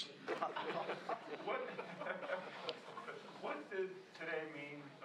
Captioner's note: laughter